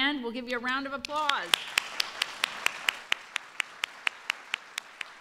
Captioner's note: applause